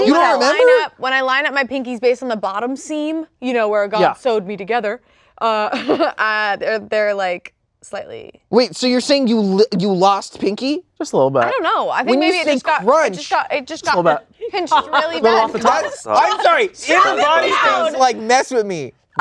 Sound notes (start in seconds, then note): 6.3 laughs